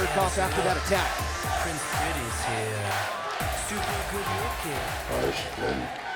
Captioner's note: crowd cheering